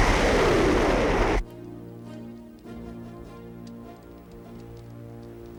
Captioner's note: fire crackling